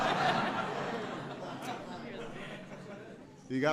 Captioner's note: laughter